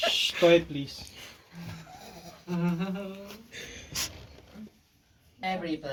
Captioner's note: and me giggling